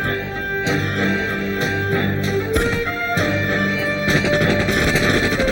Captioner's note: dramatic orchestral music; gunshots fire